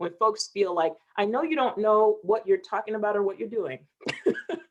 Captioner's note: chuckling